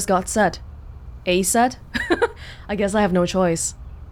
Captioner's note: chuckles